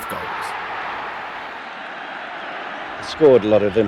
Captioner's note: crowd roaring